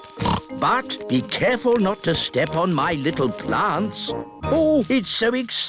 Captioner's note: snorts